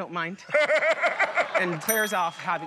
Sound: laughter

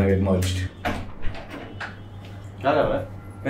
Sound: door opens

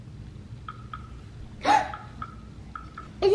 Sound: tapping; gasps

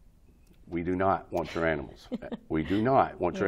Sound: chuckles

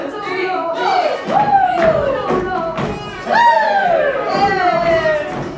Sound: dramatic music; footsteps thumping

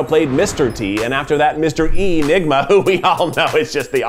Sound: laughs

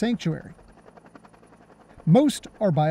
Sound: helicopter sounds

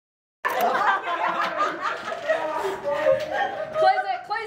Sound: all laughing

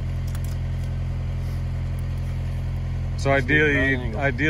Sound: chain jangling

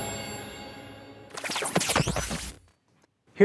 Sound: static

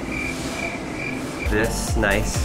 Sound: crickets chirping

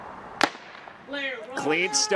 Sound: starter gun

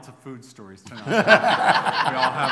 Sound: laughter

